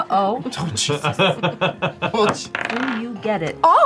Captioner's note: laughs